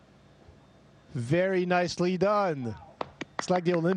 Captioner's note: applause